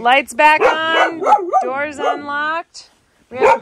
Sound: dog barking

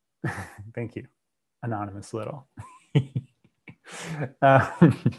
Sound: laughs

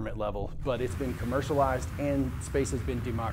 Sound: rocket whooshing

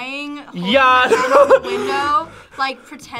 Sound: laughs

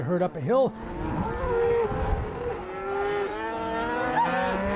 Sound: cattle mooing

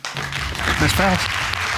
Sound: audience applauding

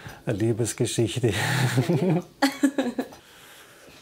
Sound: both chuckles

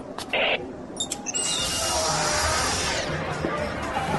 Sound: door opens; electronic music plays

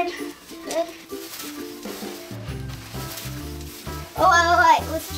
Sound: rustling

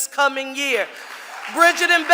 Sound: audience applauding

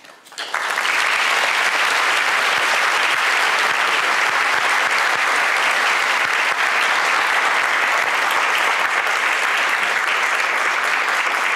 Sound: applause

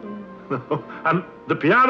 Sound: chuckles

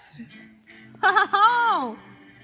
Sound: laughs in admiration

